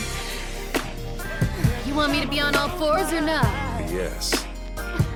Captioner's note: sigh; muffled sex sounds